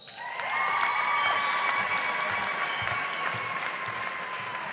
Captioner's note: audience applauding